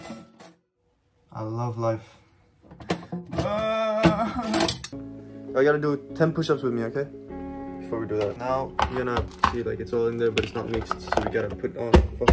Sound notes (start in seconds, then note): 3.4 crying